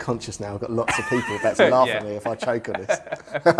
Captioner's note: laughing; laughs